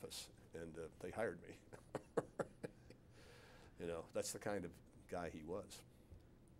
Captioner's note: laughs